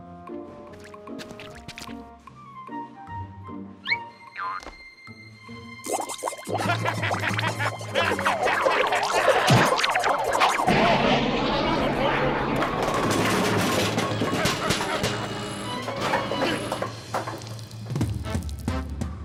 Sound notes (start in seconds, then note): 6.5 laughs; 12.7 muffled shouting; 14.7 groaning